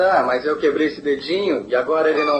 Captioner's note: squeaks